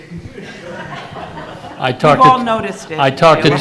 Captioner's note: audience laughing